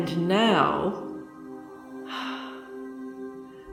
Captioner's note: sighs